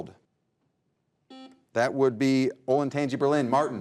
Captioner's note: buzzer buzzes